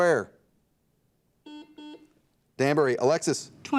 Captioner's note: buzzer dings